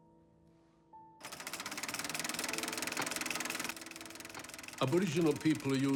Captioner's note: projector whirs and clicks